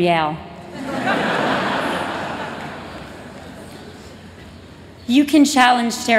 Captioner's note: laughter